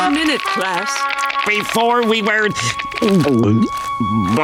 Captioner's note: gulping